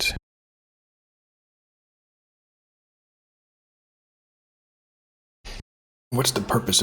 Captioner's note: blank Audio